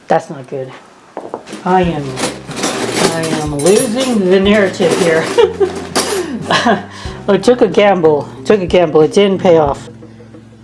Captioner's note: laughing